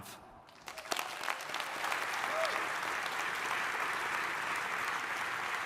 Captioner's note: audience applauding